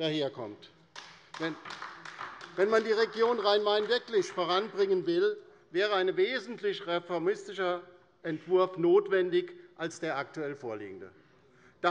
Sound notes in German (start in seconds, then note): 0.9 Beifall bei der LINKEN